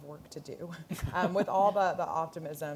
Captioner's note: laughter